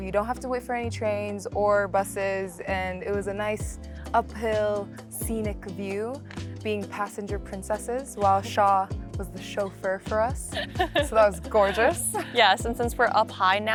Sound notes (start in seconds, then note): 10.5 laughs